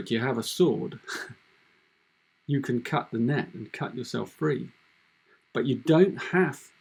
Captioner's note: chuckles